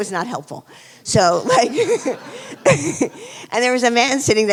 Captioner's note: laughing